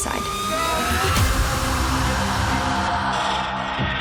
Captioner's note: screaming